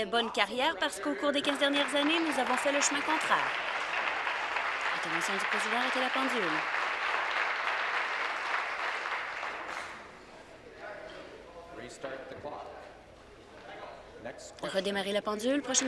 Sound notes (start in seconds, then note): 5.0 applause